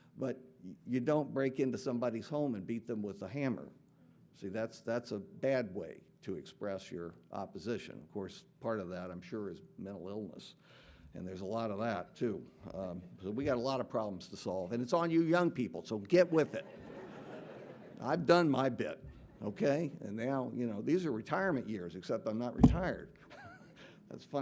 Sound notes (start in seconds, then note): 16.4 audience laughing